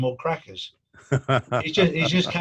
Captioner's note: laughing